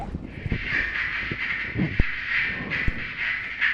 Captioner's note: radio static